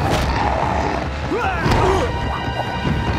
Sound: growling; grunting

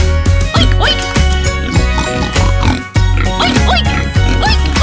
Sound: pig grunting

